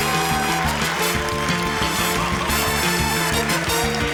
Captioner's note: cheering, applause